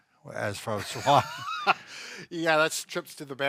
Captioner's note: laughing